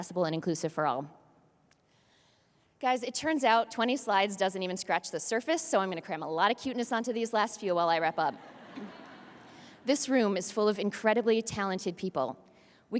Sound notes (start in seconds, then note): 8.4 audience laughs